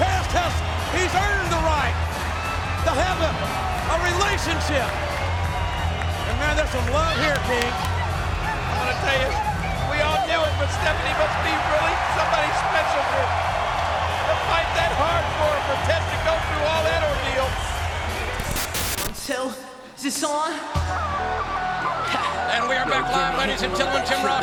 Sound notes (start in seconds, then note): 18.3 static crackling; 20.7 dramatic music